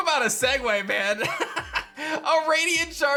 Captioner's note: laughs